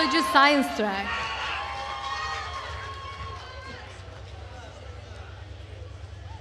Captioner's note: attendees cheering and applauding